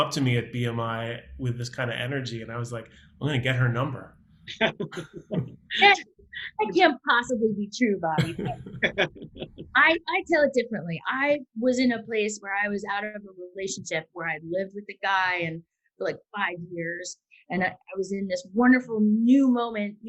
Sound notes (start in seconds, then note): 4.5 laughing; 8.2 laughs